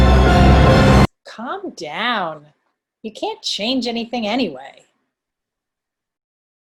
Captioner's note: voices return